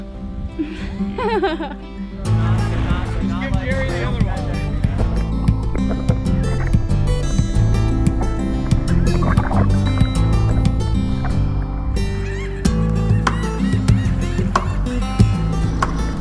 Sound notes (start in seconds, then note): 0.5 laughs; 2.5 lighthearted guitar music